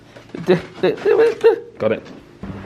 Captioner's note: humming